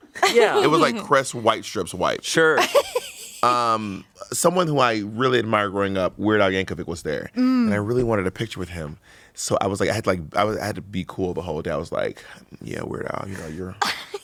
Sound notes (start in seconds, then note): 2.6 laughs